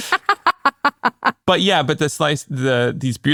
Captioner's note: laughs